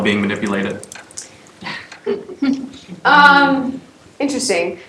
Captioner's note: laugh